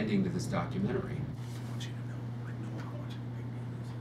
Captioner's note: whispering